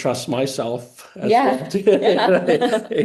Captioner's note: laughing